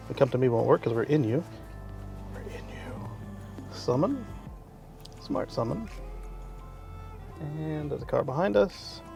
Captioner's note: whispers we’re in you